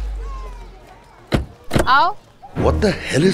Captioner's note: Car door closes